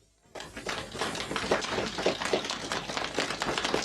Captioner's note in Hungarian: csendes taps